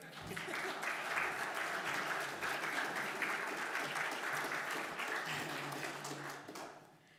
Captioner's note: applause